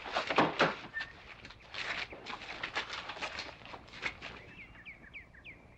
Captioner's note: bodies shuffling through the door